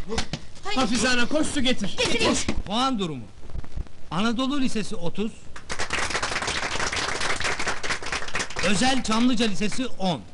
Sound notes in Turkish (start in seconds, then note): 5.5 alkişlarlar